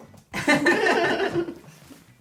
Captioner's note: laughter